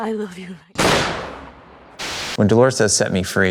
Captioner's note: gun firing